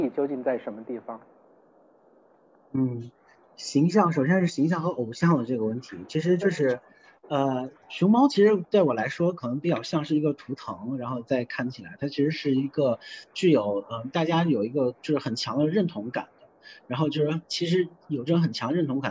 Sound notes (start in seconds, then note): 3.2 Mandarin